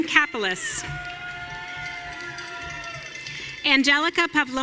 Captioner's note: audience cheering